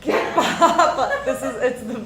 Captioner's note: laughing